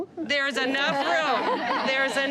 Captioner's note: laughter